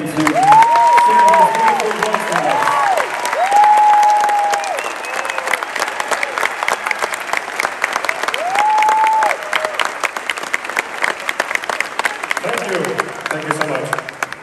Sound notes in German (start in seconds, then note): 3.4 Menge jubelt